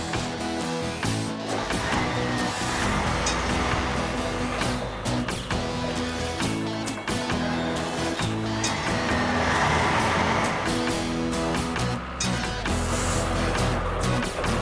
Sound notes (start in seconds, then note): 5.6 engines Running